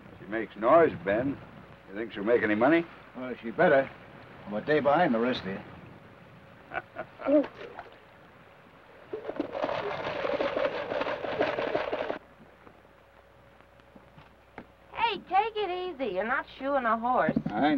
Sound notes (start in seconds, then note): 6.7 Theodore chuckles; 9.2 rocker box rattles